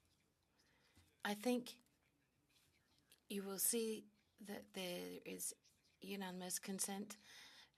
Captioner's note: speaking French